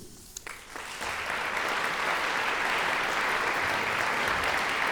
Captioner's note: applause